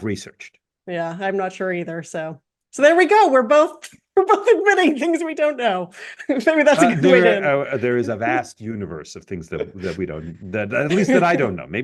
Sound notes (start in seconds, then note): 6.4 laugh